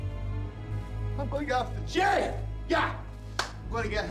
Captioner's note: claps hands